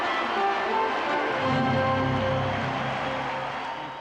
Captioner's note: cheering